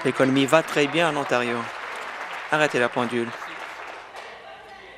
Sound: applause

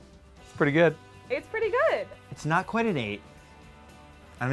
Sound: none

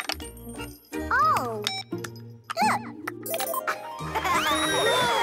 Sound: joystick beeps; giggling

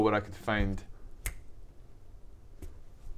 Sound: cryptic click

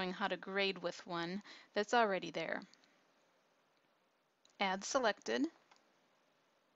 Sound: click

